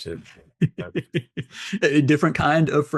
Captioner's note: both laughing